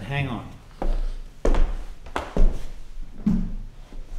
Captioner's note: shoes clacking